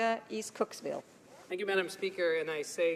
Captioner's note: speaking French